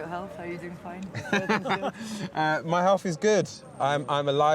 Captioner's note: laughs